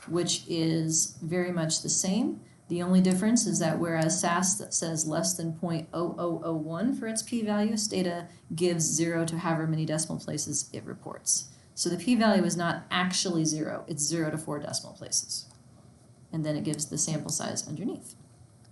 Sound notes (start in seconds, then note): none